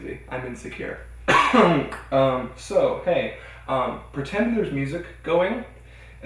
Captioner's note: coughs